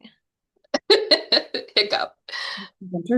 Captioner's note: laughing